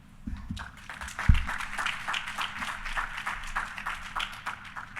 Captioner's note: audience applauding